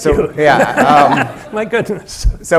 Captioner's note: laughs